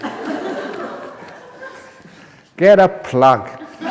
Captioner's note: laughter; laughter